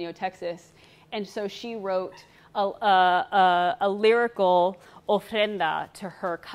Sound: speaks foreign language

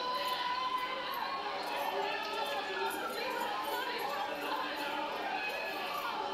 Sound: people screaming and clamoring

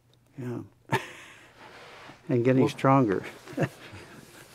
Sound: laughs

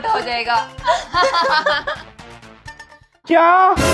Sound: laughing

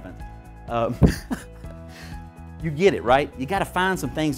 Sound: laughing

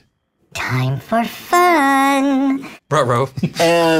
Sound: singsong

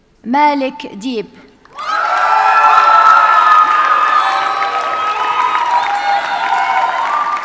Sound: audience cheers and applauds

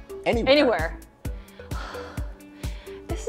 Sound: sighs

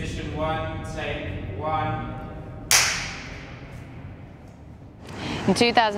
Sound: clapperboard clapping

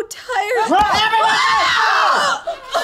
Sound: all scream; baby crying

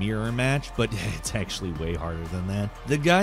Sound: chuckles

